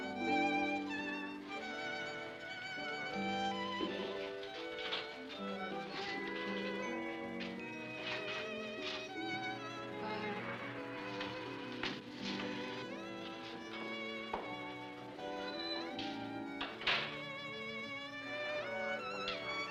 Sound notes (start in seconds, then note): 0.0 melancholy music; 0.0 voice over radio; 0.3 melancholy music; 10.9 melancholy music; 16.5 door closes; 17.8 melancholy music